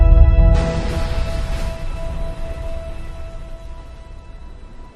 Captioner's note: splash